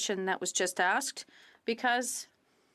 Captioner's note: speaking French